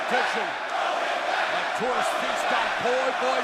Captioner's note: crowd cheering